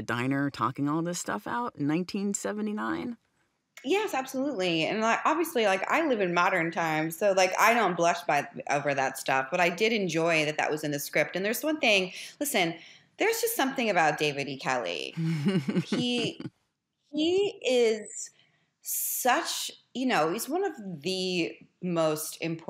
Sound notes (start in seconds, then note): 15.2 chuckles